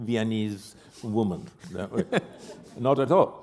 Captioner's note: laughter